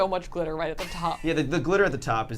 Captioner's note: laughs